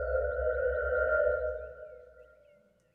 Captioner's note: birds chirping